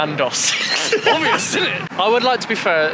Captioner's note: laughter